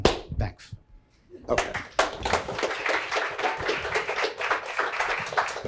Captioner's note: applause